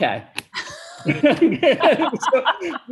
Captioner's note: chuckles